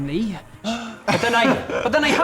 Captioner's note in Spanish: Bocanada de sorpresa